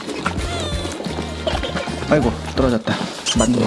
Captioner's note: laugh